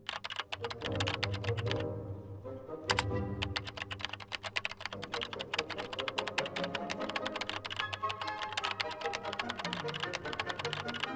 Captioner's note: keyboard clicking